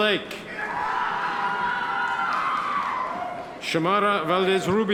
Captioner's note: audience members cheer